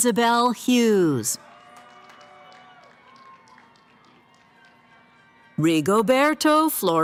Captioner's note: cheering